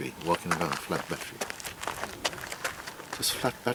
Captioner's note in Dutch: schuifelende voetstappen